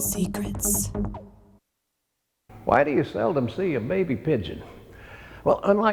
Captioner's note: lady whispering "secrets"; lady whispering "Forbidden Secrets"